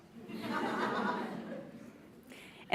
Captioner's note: laughs